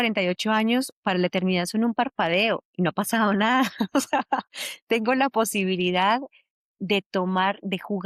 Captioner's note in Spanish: risas